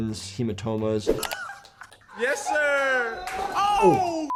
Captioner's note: laughs; beep